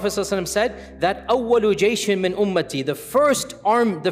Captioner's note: Arabic